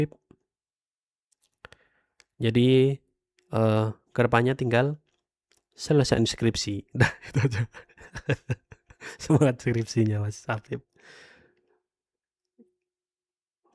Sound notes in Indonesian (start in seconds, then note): 7.1 tertawa